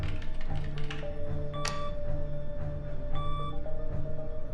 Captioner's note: machine whirring